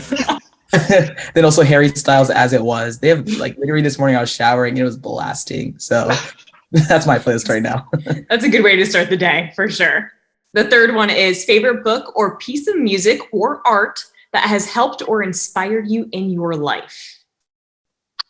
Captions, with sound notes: (group laughing) And also Harry Styles' "As It Was." Literally this morning, I was showering, it was blasting. So that's my playlist right now. (laughing) - That's a good way to start the day for sure. The third one is favorite book or piece of music or art that has helped or inspired you in your life?